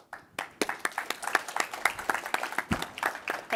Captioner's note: applause